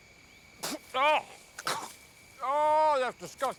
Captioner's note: Noah spits and groans